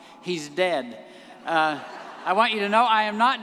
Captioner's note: audience laughing